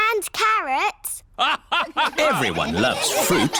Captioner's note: all laugh